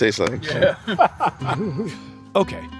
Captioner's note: laughing